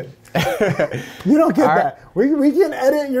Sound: laughs

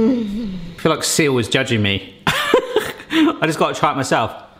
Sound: crunching; laughing

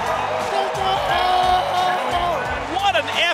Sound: excited shouting

